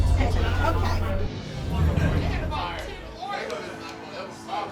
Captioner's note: background conversation